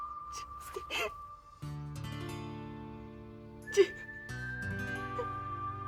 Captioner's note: sobbing